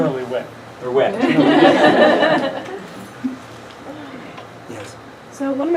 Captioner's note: laughing